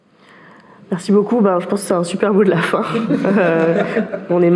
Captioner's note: laughs